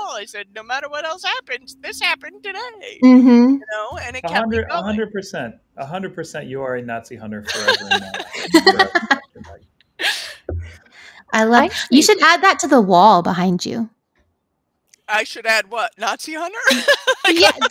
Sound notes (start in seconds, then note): 7.4 all laughing; 16.6 laughs